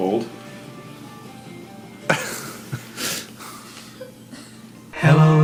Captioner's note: laughs